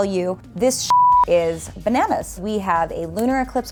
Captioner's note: beep